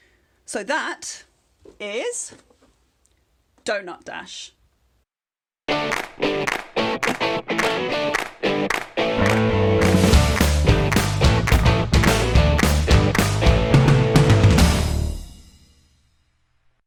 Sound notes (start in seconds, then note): 5.8 claps